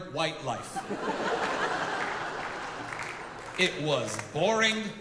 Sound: audience laughing

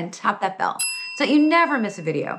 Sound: bell ringing

